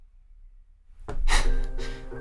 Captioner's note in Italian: sigh